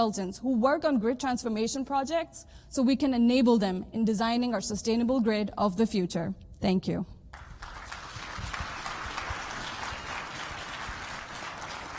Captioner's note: applause